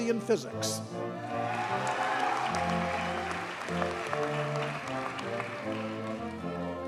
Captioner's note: audience cheers and applauds